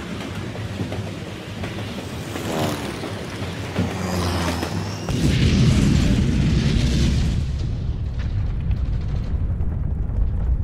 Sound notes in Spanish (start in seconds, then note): 2.2 Sonido de explosión